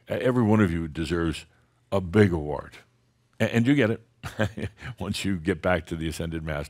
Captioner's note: chuckles